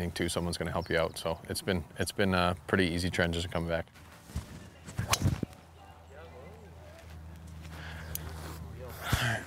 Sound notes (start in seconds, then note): 4.9 ball whips